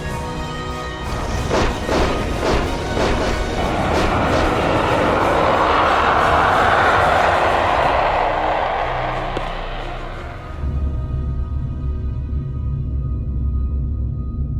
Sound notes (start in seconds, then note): 1.3 guns firing; 4.0 ship roars